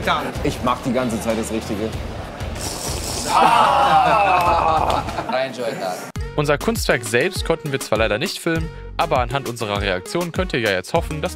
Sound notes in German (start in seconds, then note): 2.5 Schlürfen